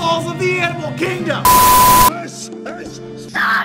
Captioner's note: beep